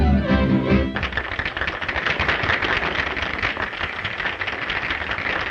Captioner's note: upbeat music; audience applauding